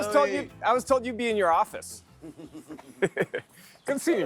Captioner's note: laughs; chuckles